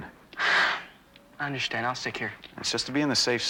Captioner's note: sighs